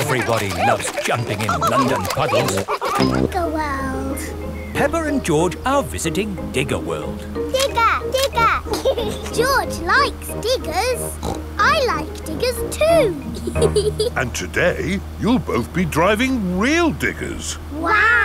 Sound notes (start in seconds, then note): 8.2 laughs; 11.1 snorts; 12.8 laughs